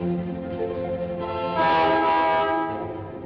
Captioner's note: instrumental music playing; horn honking; instrumental music playing